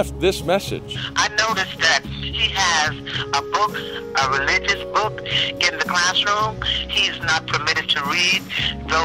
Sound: phone message

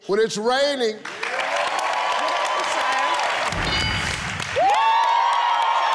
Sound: audience applauding

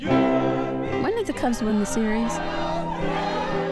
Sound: cheering

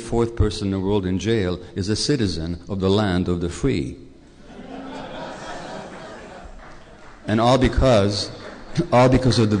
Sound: laughter, applause

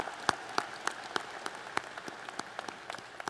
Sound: applause

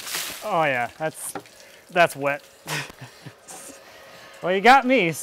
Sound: laughs

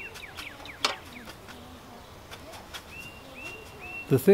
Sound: soft bristles rustling

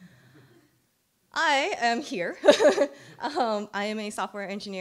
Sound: chuckling

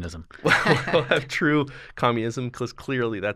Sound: chuckle

